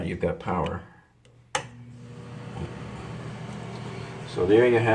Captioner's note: switch slicking